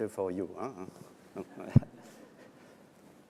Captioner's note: laughter